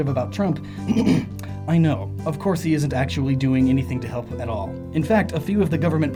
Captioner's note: ehem